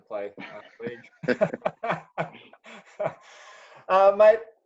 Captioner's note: chuckling